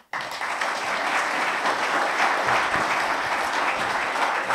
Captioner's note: applause